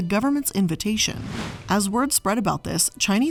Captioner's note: air whooshing